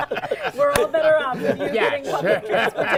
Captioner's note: laughter